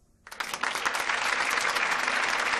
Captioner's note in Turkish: Alkış sesi